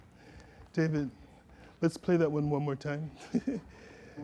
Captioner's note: laughter